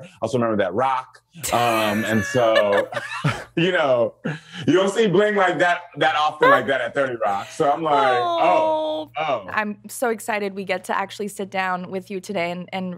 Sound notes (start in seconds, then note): 1.7 laughter